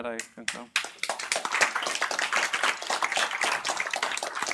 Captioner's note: applause